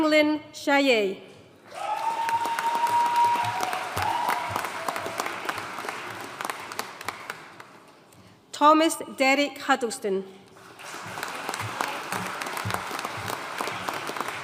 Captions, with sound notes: Ping-Lin Hsieh. (AUDIENCE CHEERING AND APPLAUDING) Thomas Derek Huddleston. (AUDIENCE APPLAUDING)